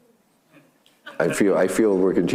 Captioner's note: audience laughing